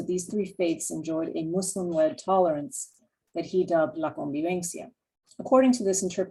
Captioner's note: spanish